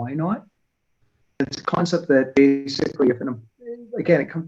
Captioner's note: audio warbles